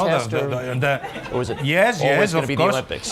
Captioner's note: laughter